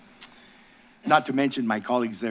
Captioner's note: smacks lips